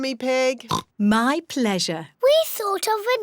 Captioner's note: oinks